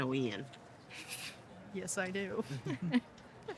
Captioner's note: chuckles